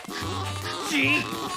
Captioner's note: pump squeezing